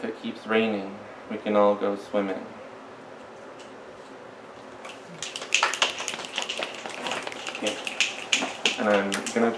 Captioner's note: snaps and applause